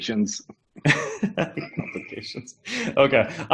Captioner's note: chuckles